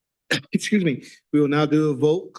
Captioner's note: coughs